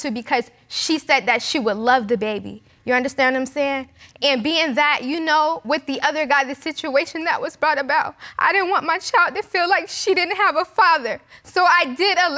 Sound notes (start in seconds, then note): none